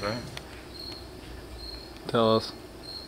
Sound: cricket chirps

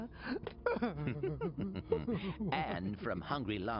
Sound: chuckles; sobs

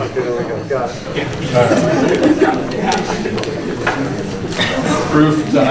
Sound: laughter

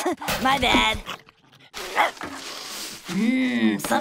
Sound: barking

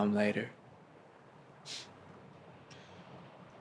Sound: he sniffs

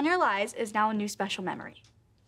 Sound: none

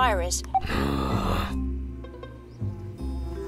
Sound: growls

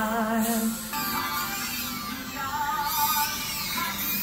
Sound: device whirring

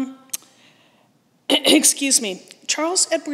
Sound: clears throat

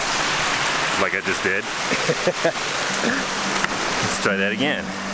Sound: laughing

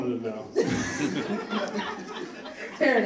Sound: audience laughs

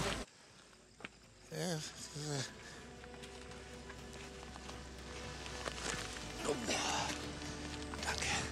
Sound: moans

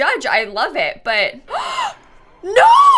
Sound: gasps

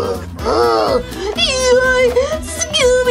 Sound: creepy moaning; Shaggy screams

